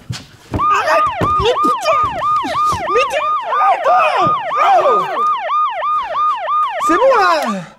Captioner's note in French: bruit d'alarme